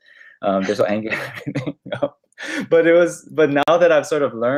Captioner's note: laughs